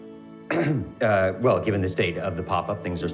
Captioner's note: clears throat